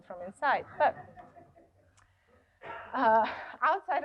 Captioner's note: laughter